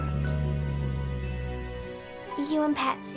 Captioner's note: growling